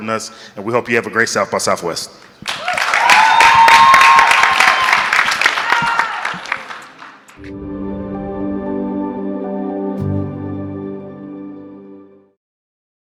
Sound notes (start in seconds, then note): 2.4 audience clapping; 7.4 gentle music